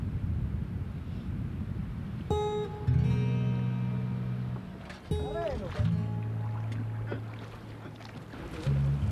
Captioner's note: foreign Language and River Sounds